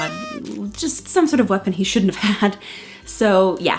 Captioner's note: laughs